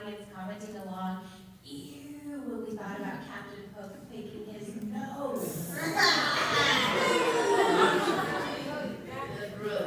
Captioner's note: laughter